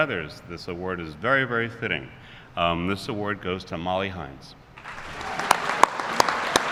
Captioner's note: applause